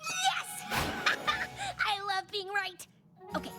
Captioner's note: laughs